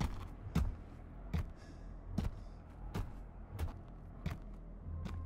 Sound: none

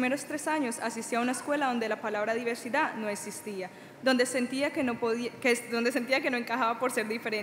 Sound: speaking Spanish

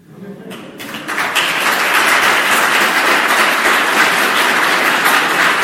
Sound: audience mutters and claps

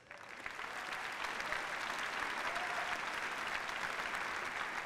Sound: applause

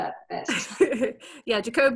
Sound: laughs

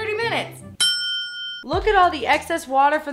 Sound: timer dinging

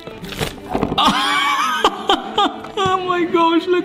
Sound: laughing

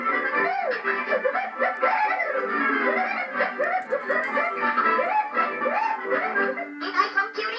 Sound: whooping

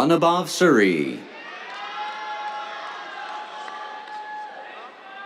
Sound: cheers, applause

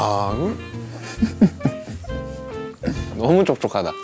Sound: haha

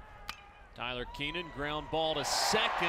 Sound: crack of bat

